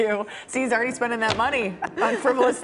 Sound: laughter

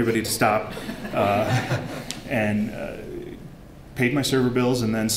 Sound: laughter

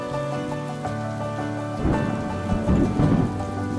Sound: thunderclap

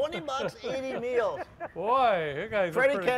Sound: laughing

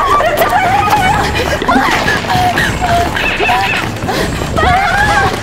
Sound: panting

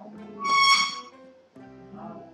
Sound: sound of a dragging a chair

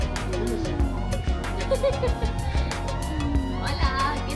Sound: laughing

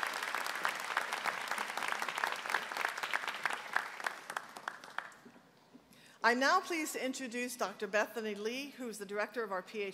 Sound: applause

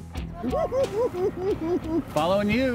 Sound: cackling

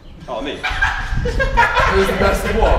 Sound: group laughs

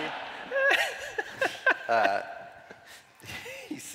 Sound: laughter

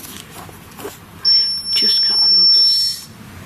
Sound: metre beeps

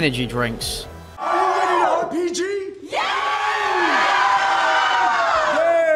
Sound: crowd cheers

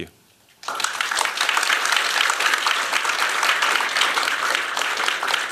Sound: applause

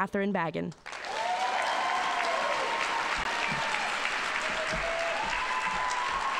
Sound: audience applauding and cheering

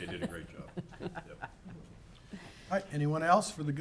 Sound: laughing

